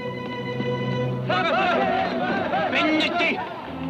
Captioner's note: Apaches shout; Delgadito speaking foreign language